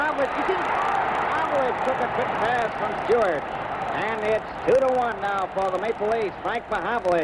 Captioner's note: crowd cheers